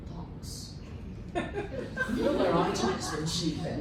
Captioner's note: laughter